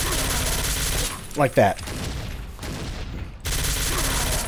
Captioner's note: KABOOM x2